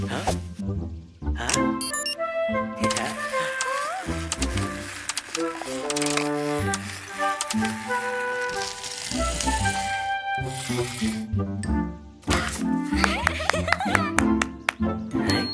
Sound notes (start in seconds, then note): 1.8 electronic sound; 2.8 sound of robots; 12.8 applause and laughing